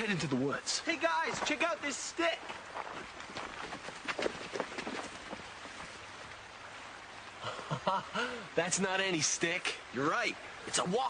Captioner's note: chuckles